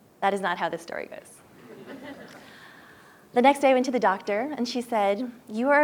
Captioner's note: laugh